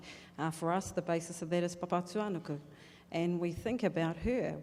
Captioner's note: speaking in foreign language